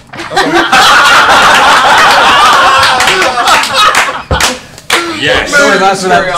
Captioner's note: laughter